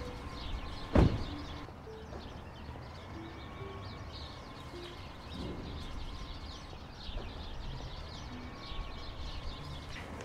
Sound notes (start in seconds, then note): 0.8 car door closes